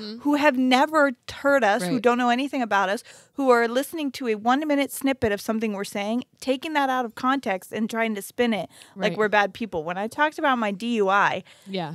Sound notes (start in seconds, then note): none